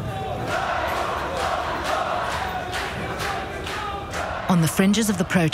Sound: crowd chanting in Arabic

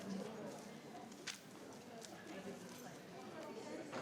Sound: none

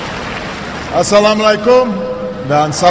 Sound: non-english speech

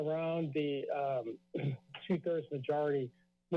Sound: clears throat

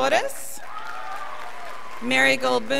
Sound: scholars applauding

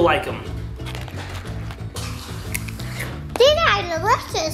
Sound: chips crunch

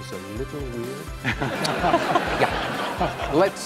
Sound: audience Laughs

